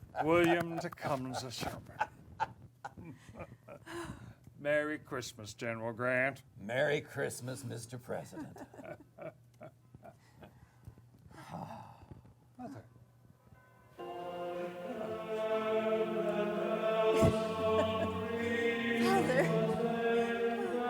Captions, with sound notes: William Tecumseh Sherman. Merry Christmas, General Grant. - Merry Christmas, Mr. President. (church bells ringing) (choir music) - Father.